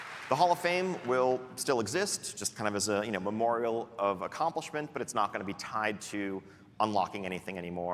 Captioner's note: applause and cheering